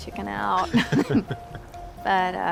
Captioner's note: chuckling